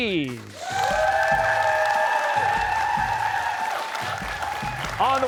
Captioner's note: cheers and applause